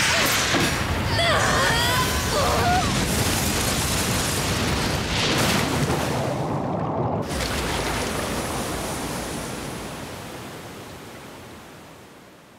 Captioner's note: scream